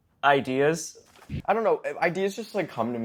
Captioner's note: tv buzzes